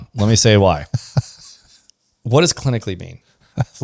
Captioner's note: laughs